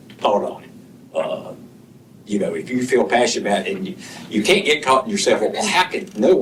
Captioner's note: clears throat